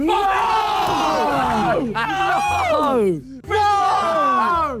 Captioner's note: Sidemen groan